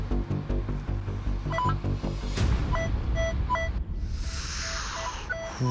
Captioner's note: beeping